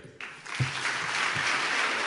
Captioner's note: applause